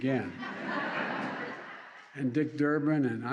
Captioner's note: laughter